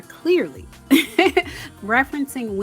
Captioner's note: giggles